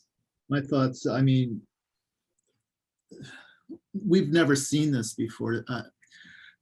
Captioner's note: sighs